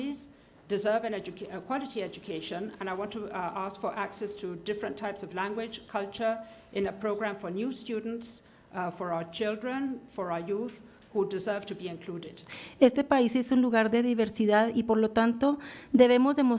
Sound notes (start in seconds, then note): 12.9 foreign language